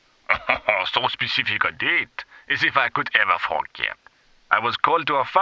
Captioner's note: laughter